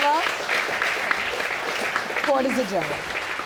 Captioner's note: audience clapping